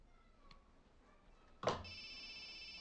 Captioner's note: phone ringing